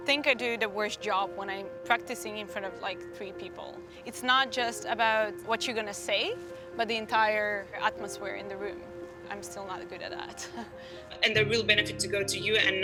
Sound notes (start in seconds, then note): 10.6 laughs